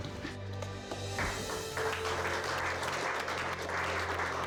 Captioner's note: clapping